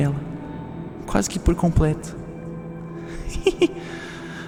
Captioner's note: giggle